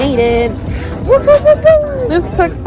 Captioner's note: victory noises